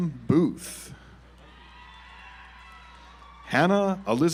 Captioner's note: audience applauds